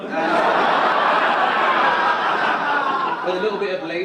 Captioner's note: audience laugh